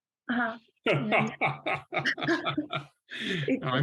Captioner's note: laughter